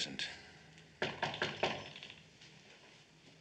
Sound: knock on door

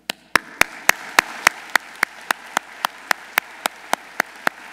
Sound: audience applauding

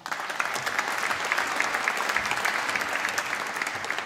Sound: applause

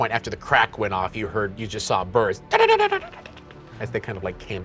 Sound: mimicking birds flying

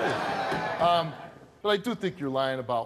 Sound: audience laughs

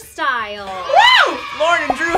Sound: crowd of kids cheer

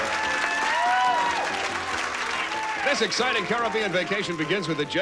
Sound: audience applauding

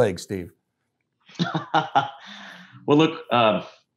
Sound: laughs

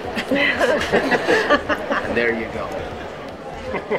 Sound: laughing

